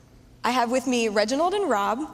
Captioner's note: none